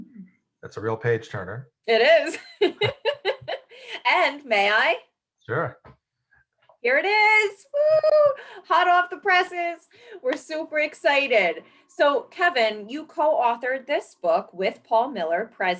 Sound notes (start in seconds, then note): 1.9 laughing; 2.0 chuckles; 7.8 cheers